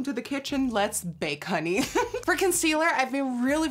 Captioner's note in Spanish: Risas